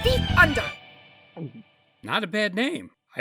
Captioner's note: gulp